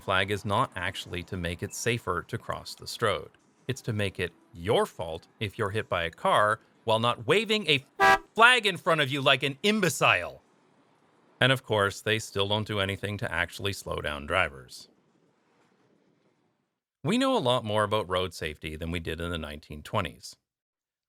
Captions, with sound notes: is not actually to make it safer to cross the stroad. It’s to make it your fault if you’re hit by a car, while not waving a [honk] flag in front of you like an imbecile! And of course, they still don’t do anything to actually slow down drivers. We know a lot more about road safety than we did in the 1920s.